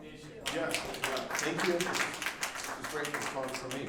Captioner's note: group applauding